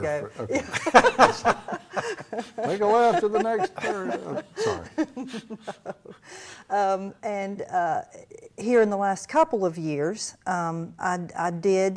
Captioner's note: laughter